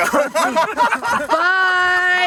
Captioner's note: laughs